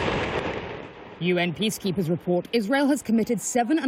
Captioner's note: voice-over